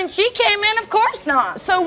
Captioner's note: none